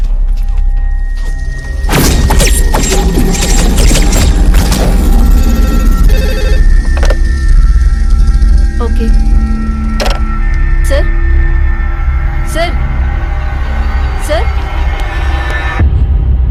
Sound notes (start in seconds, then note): 5.4 phone rings